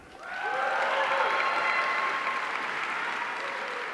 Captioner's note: audience cheering